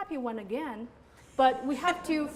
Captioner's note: laughter